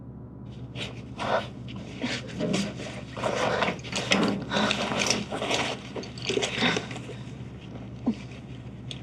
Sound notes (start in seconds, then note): 2.6 breathing heavily; 3.8 shuffling through bag